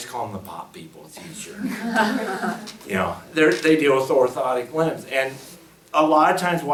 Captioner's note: laughs